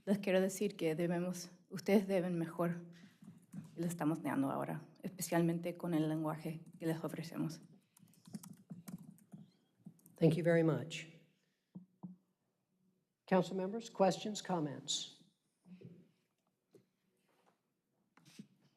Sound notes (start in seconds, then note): 3.7 speaking spanish